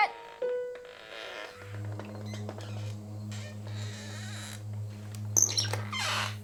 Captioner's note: eerie music; door creaks